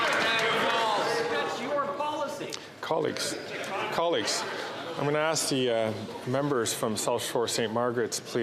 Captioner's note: applause